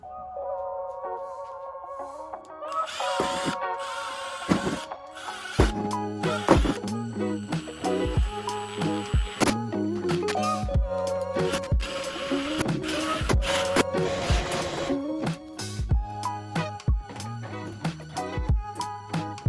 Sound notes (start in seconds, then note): 3.1 machines buzzing and humming